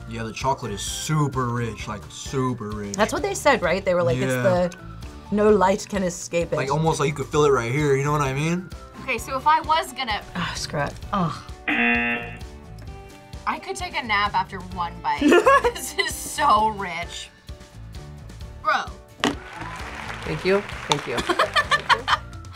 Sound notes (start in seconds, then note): 11.6 buzzer; 15.2 laughs; 19.2 crowd applauds; 21.2 laughs